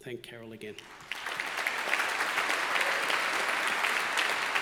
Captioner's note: graduates clapping